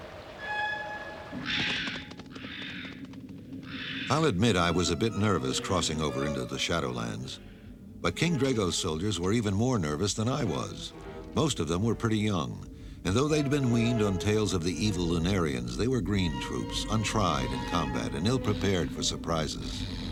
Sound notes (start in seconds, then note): 1.2 crows cawing